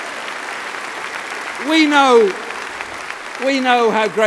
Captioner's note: applause